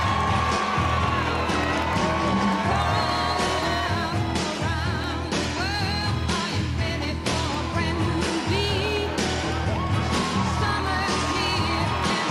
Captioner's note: cheers and applause